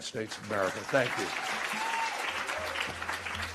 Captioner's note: applause